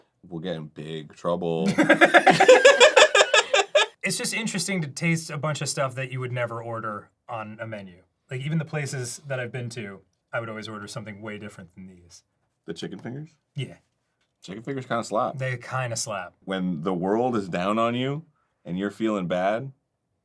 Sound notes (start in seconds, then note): 1.6 the boys laugh